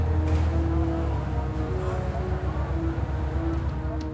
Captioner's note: radio chatter; tense music